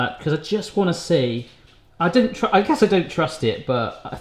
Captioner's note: none